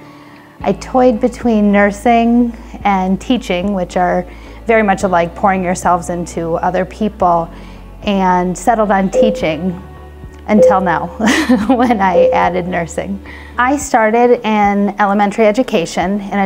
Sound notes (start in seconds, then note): 11.2 laughter